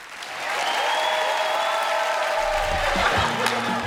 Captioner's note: cheers and applause